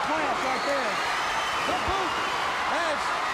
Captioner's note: crowd cheering